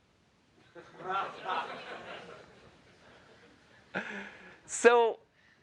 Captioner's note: laughter